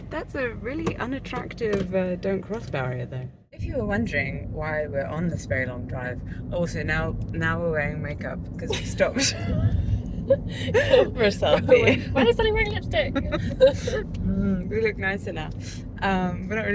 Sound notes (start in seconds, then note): 8.7 laughter